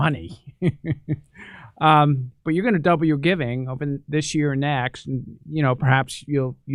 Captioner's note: laughs